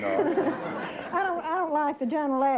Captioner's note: laughter